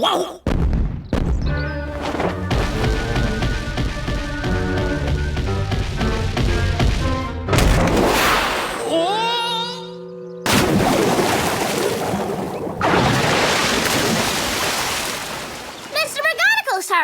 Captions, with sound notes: (slow heavy footsteps) (fast heavy footsteps) (thud) Whoa! (splash) - Mr. McConigle, sir!